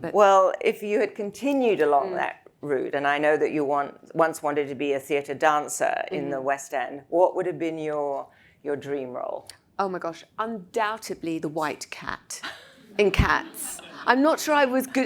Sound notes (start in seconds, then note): 12.7 all laugh